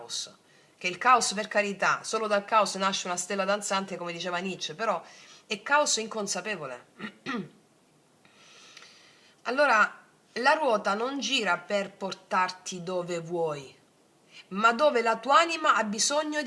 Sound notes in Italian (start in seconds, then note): 7.0 schiarire la voce